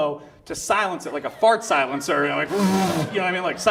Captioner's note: blows raspberry